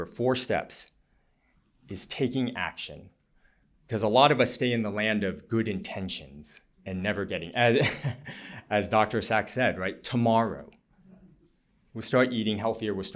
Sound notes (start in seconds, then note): 7.8 laughter